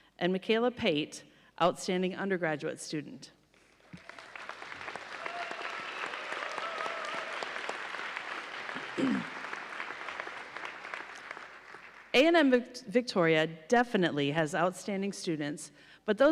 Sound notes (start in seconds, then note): 3.7 audience applauding